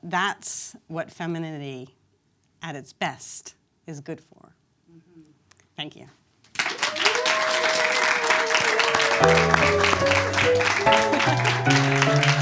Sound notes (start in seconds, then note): 6.5 audience claps; 9.2 upbeat music